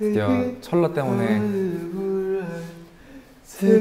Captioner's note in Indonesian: Suara gua alam encore